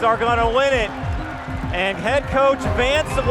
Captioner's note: crowd cheering and applauding